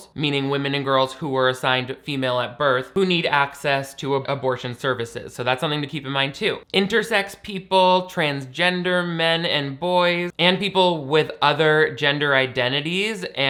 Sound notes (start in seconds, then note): none